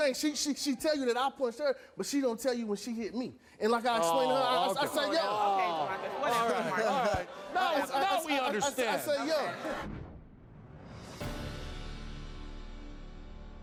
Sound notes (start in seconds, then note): 4.2 audience groans; 9.8 dramatic music